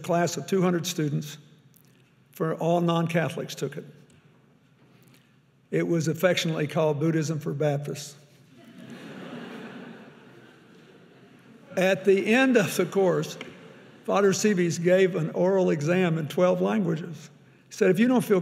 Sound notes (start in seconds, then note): 8.6 audience laughing; 12.9 chuckles